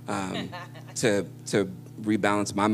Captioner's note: laughter